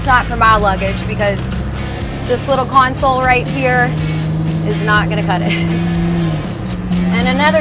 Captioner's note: laughs